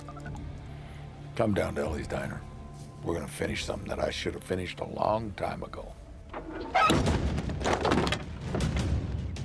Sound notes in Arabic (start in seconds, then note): 6.3 صرير مفتوح; 8.2 موسيقى متوترة